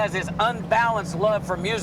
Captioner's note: none